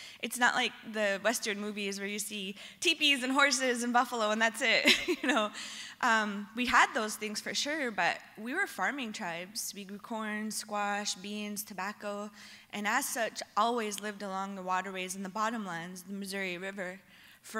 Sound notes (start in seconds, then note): 5.8 laughs